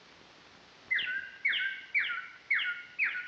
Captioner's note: birds chirping